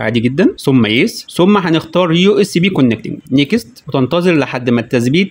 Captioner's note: usb connection